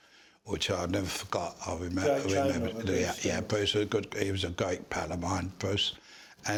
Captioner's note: Voices in background agree with Freddie